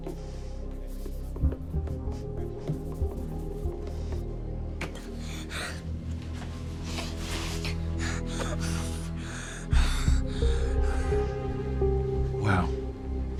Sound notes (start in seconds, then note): 7.5 Lucas panting rapidly